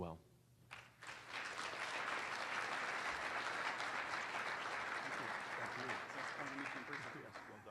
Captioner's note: applause